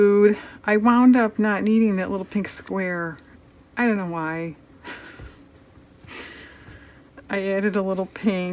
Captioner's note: laughs